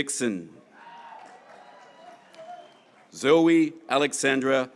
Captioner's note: graduates cheering